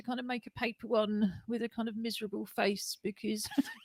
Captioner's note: laughter